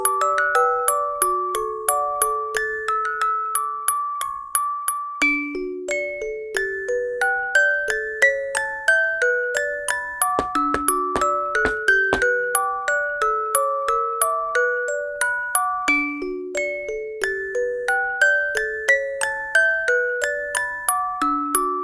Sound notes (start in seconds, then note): 10.4 knocking